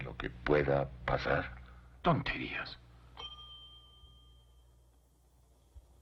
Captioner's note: bell Dings